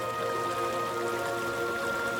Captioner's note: water splashing